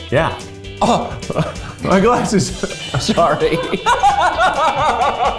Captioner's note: laughs